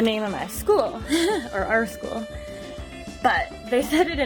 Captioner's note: giggles